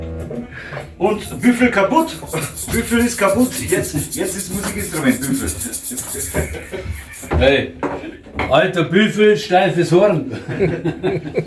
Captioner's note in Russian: смех